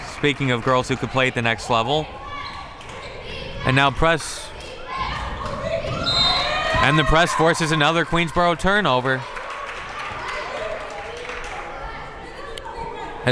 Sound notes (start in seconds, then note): 6.0 whistle tweeting; 9.7 crowd members clapping